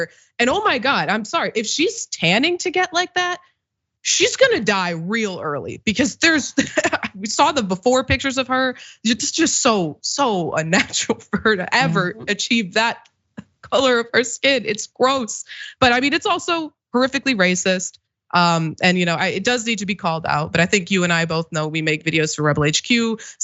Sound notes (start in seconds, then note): 7.2 laugh